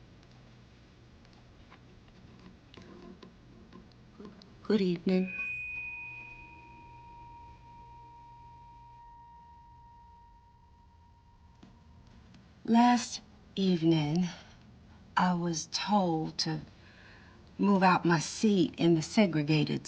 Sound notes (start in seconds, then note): 5.1 feedback